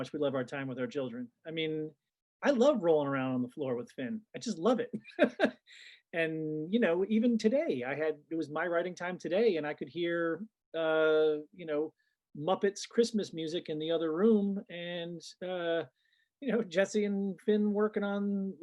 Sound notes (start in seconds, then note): 5.0 laughs